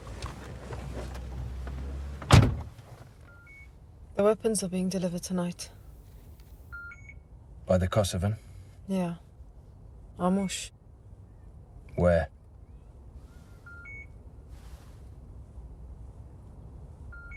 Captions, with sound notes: (door clicking) (device beeping) - The weapons are being delivered tonight. (device beeping) - By the Kosovan? - Yeah, Ramush. - Where? (device beeping)